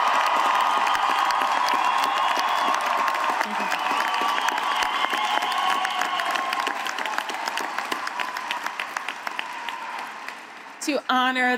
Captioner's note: cheering and applause